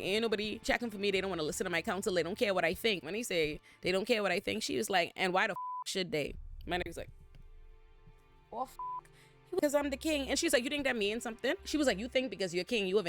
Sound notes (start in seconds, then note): 5.5 beep; 8.8 beep